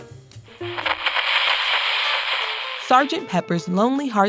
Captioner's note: radio crackles; upbeat music plays